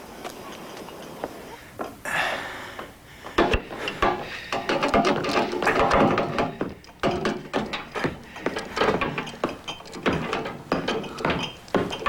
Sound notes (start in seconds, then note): 3.0 panting with effort; 3.8 banging of tools